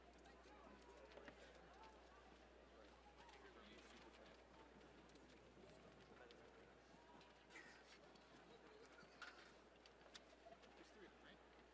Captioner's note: applause